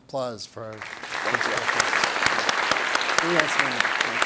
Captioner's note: everybody applauds